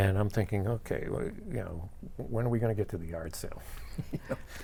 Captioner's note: laughs